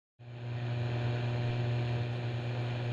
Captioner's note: buzzing